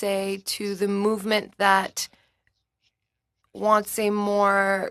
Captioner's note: speaking French